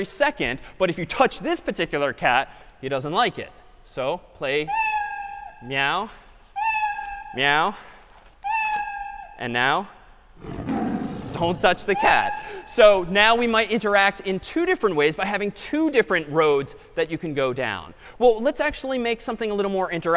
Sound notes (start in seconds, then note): 4.7 meow; 6.6 meow; 10.4 roar